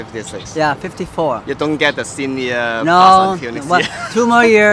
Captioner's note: laughs